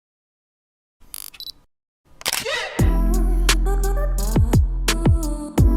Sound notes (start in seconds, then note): 1.1 camera beeps; 2.2 camera shutter clicks; 2.7 funky music